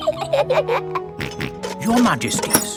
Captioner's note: both giggle; snorts